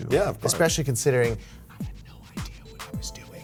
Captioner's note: whispering